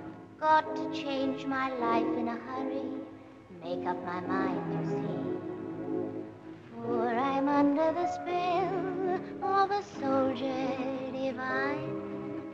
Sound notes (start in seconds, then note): none